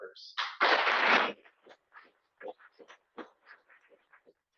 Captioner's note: applause